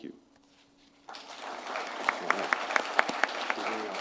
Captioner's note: applause